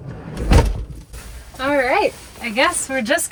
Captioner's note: engine roaring; door banging